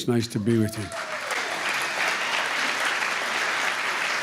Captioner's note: applause